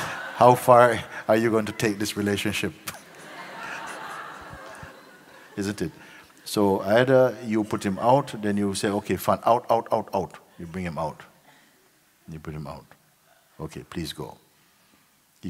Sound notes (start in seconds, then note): 0.0 laughter; 2.8 laughter